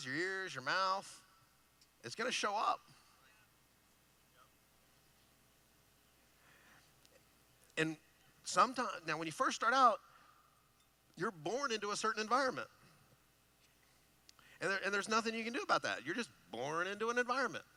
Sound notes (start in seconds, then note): none